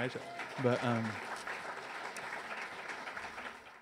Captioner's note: audience cheers